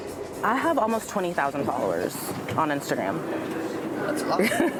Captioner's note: laughs